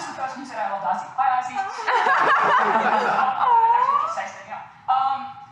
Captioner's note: laughter